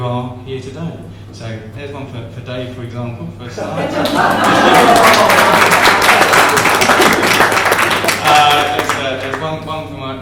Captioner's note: laughter & Applause